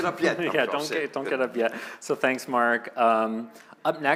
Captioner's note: laughter